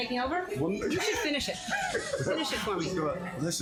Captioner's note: laughs